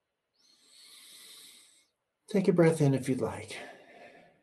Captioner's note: inhales